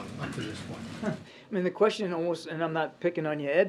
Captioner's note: laughs